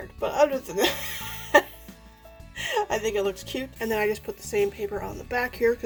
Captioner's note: laughs